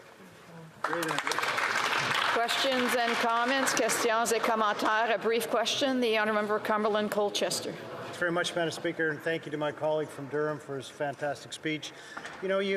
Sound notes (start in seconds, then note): 5.7 applause